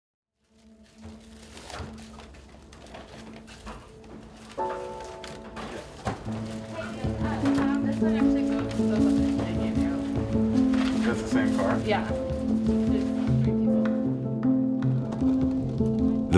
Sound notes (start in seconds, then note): 1.0 items rustling; 4.7 gentle music